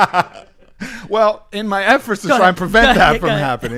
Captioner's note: laughs